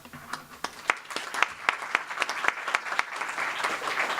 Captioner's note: clapping